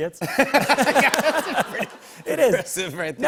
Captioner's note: laughter